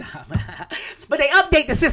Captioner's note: laughing